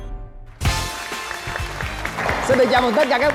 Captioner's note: applause